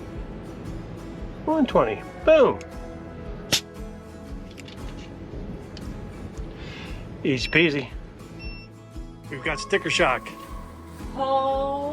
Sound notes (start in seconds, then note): 4.1 gentle music; 4.1 tool pops